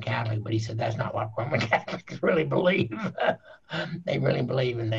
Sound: laughing

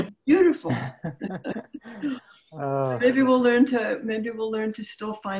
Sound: laughing

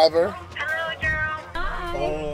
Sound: on phone

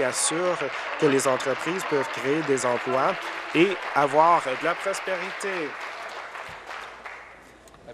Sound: applause

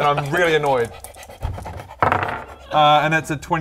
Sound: smug panting

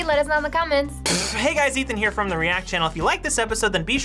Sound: spits

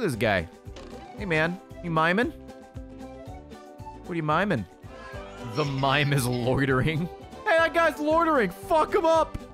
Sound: laughs

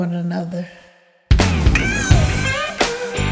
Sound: aaow!

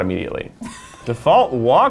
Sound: laughs

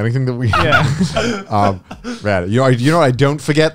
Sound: everyone laughs

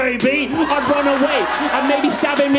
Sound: crowd cheers and applauds

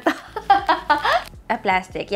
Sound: laughs

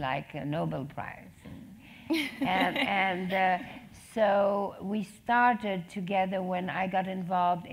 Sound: laugh

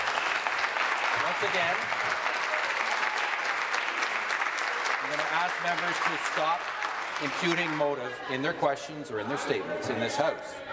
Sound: applause

